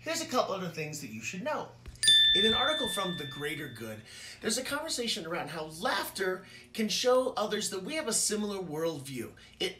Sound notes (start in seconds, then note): 2.0 ding